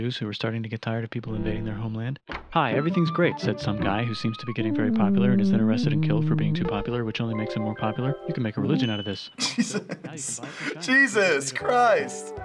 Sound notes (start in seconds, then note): 9.3 laughing